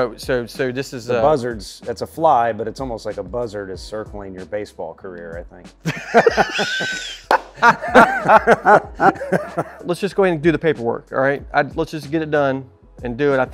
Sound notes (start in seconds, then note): 5.8 laughing; 6.8 hand clapping